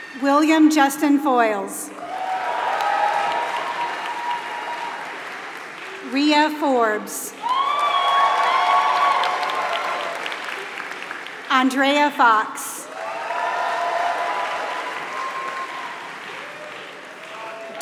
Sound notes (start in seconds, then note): 0.0 applause